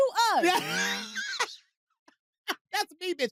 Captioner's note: laughs